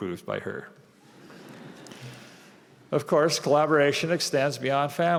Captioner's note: laughter